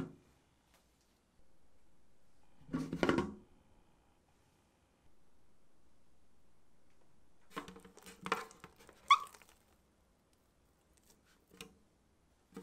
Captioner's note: folding